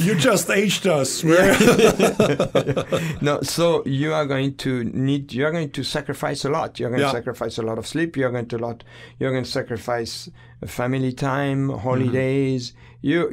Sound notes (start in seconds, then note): 1.4 both laughing